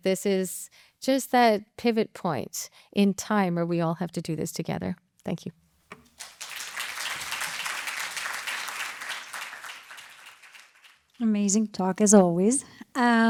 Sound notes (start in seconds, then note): 6.0 applause